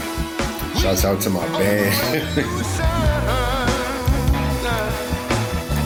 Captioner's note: laughs